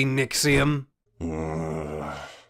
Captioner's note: groan